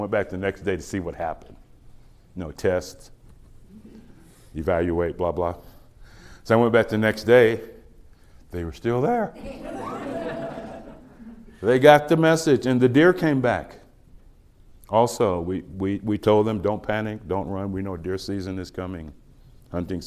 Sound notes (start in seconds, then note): 9.4 laughter